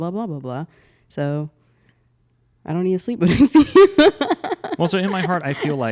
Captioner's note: laughs